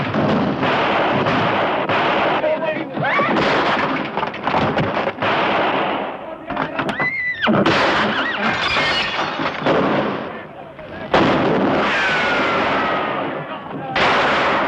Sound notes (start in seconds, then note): 6.9 horse whinnying; 11.0 gunfire